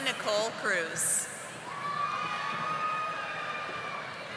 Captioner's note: audience applauding